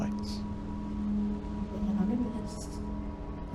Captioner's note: mystic ringing; ethereal voice